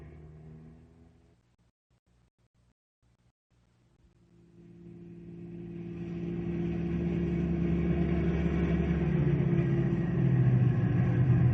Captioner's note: engine revving